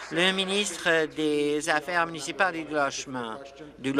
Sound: applause

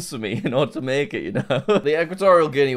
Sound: laughs

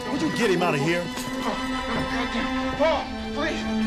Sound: muttering

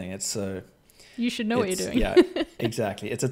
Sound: laughs

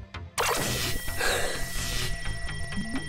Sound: gasps

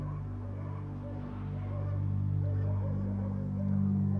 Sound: dogs barking

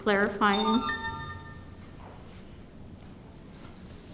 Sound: beep sound

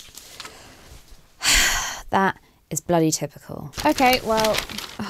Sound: rustling; sighs

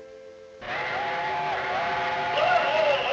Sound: train horn blaring

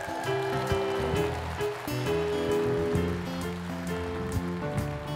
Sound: applause; theme song

